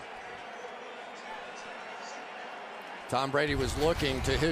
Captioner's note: pa announcement